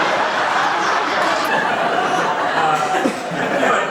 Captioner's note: laughter